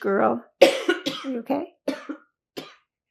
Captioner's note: coughing